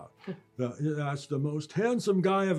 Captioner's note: mimicking her voice